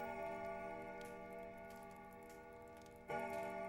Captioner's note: clock chiming